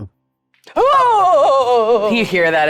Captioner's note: shrieking